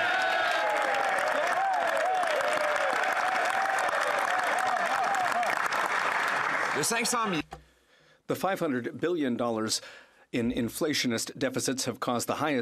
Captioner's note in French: voix de l'interprète